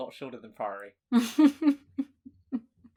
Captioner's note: laughs